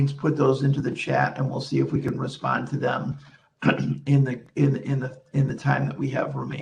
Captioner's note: clears throat